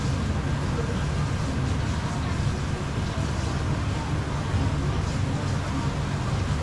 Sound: foam

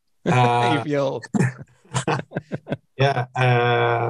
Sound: laughs

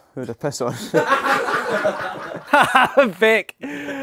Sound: people laughing

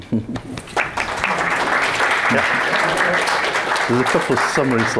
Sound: audience claps

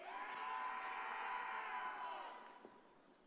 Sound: crowd

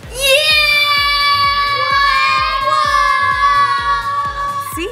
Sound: children yelling

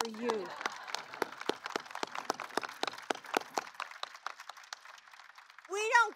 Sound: applause

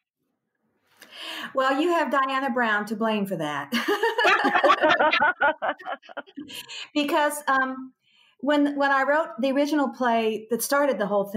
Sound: all laugh

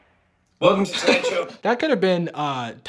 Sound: laughing

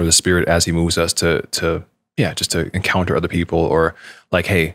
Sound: none

